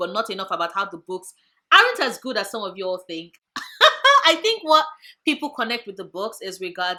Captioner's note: laugh